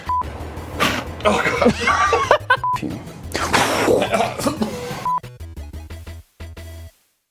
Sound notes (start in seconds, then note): 1.4 laughter; 3.3 coughing